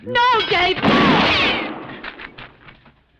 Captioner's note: gunshot